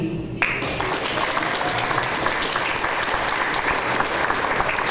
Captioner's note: audience applause